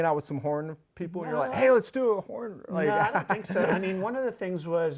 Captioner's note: laughs